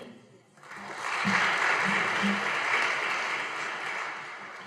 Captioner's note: audience applauding